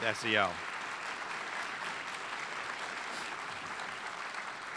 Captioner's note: audience applauds